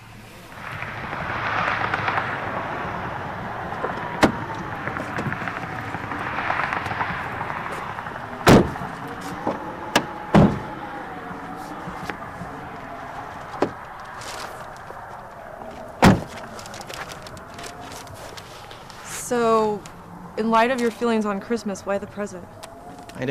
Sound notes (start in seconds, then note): 1.9 cars passing in the distance; 1.9 wind whistling